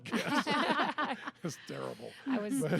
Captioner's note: all laughing